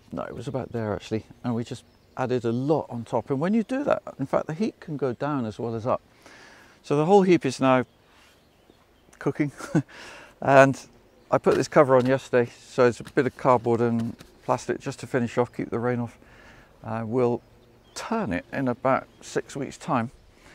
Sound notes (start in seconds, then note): 9.5 laughs